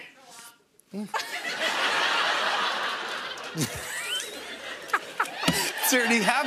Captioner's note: laughter